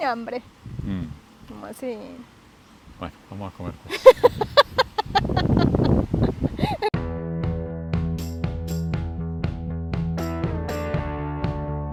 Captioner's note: laughs